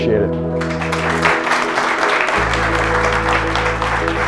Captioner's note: applause